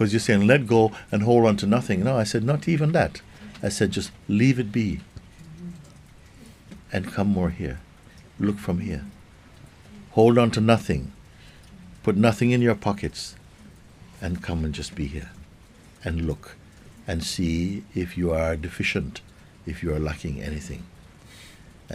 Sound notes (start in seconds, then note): none